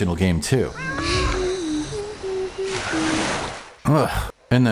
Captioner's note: awful Mermaid Sounds!